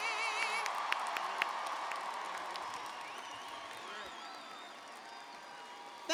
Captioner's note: cheers and applause